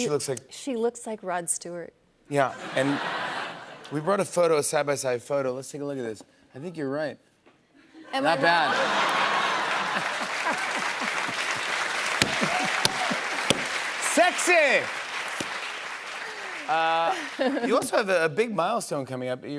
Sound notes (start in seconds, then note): 8.2 laughter; 8.6 cheers and applause